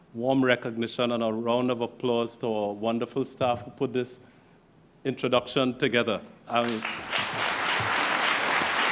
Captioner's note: applause